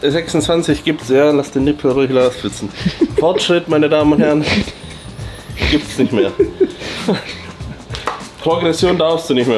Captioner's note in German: gelächter